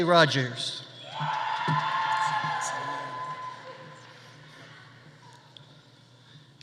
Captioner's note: audience cheering; audience applauding